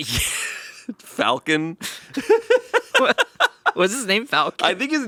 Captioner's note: laughing